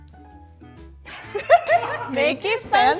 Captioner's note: laughs